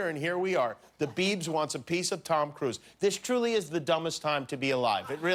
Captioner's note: laughter